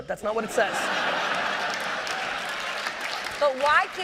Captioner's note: laughter